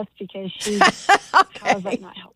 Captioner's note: laughs